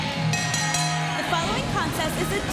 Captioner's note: bell ringing